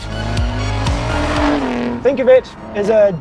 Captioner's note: engine revving